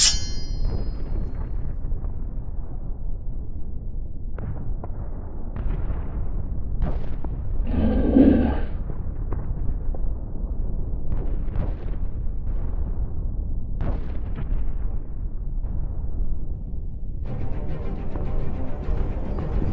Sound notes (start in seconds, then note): 0.0 sword clanging; 7.6 aligator grunting